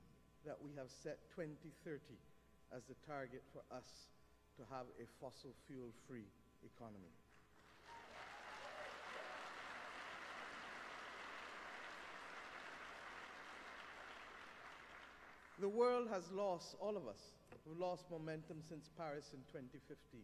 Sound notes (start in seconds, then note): 5.7 applause